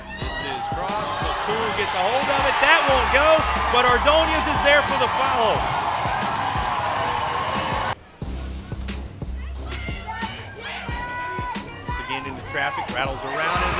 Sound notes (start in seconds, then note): 5.6 cheering